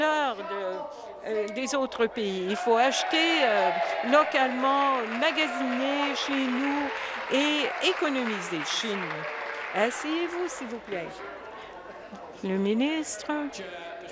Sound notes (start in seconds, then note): 6.2 applause and cheering